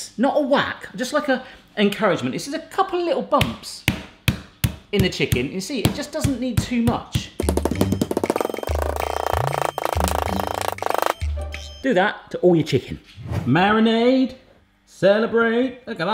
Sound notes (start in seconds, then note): 7.4 rapid banging; 7.4 playful music